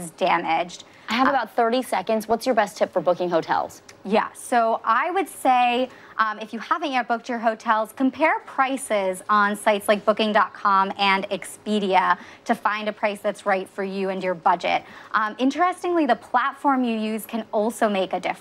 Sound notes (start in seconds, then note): none